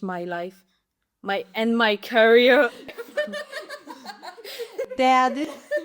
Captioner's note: laughters